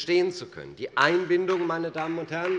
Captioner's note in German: Beifall bei Abgeordneten der CDU